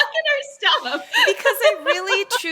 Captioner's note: both laugh